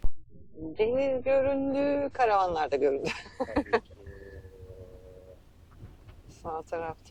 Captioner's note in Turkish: kahkaha